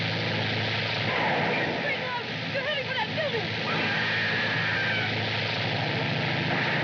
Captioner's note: screaming